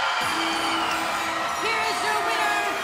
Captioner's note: cheering; bell